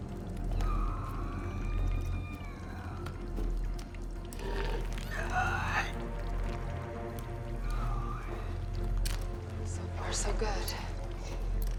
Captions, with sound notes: (creature moaning) (creature groaning) - So far, so good.